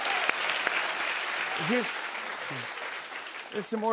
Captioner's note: cheers and applause